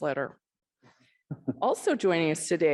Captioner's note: chuckles